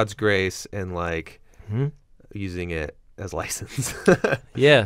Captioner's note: laughs